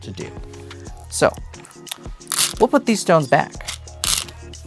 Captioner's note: stones rattling; stones rattling